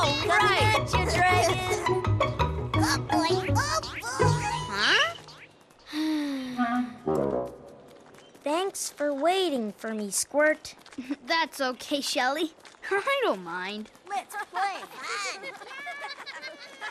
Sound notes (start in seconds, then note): 5.8 sighs; 14.8 laughter